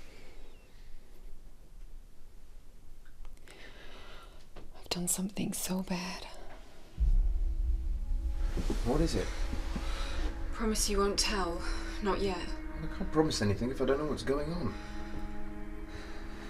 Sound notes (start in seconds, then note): 4.7 quietly